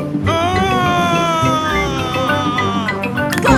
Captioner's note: screaming